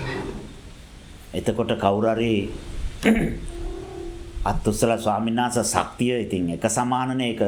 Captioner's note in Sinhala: උගුර කෑරීම